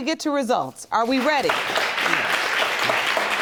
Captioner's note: audience claps